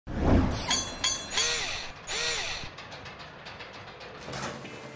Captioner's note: mechanical SFX